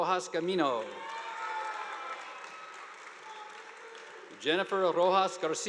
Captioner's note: audience applauding